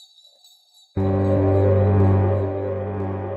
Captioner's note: unexpectedly ominous toot